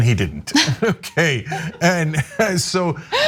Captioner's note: laugh